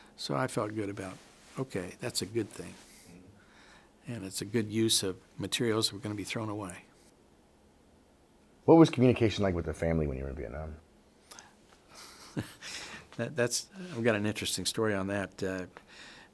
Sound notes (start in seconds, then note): 11.9 chuckles